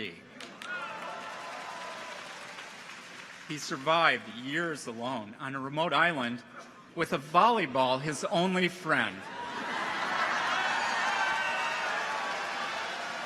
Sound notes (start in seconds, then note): 0.4 audience applauds; 0.6 clappers clack; 9.3 audience laughs